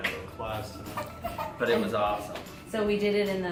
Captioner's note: baby cries